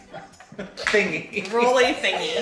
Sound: family laughing

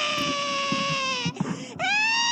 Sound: gasp

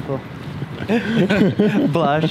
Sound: laughs

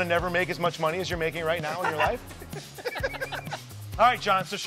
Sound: everyone laughing

